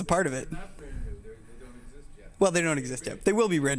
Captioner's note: man speaking off mic